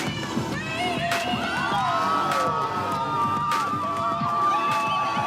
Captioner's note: students cheering